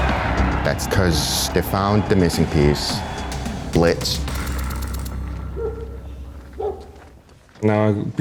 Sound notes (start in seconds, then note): 5.3 dogs barking in the distance